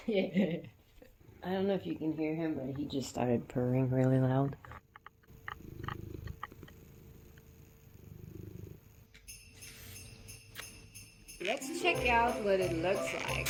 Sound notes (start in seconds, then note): 5.2 Merri purring